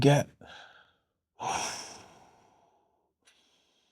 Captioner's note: exhales